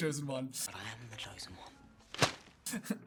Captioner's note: thwap!